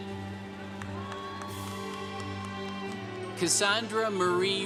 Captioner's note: congregation cheering